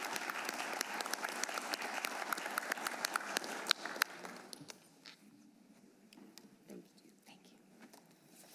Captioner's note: applause